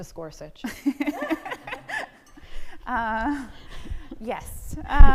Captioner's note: both laughing